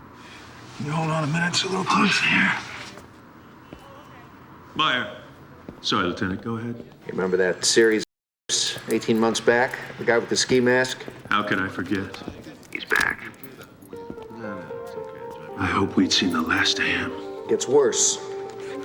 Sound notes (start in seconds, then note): 13.8 indistinct chatter